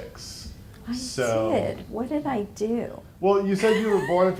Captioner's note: laughing